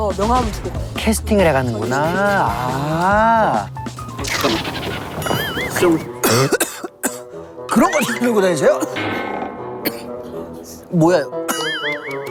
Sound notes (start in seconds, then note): 9.8 air Went Down the Wrong Pipe